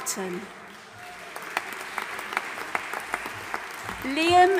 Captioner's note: audience applauding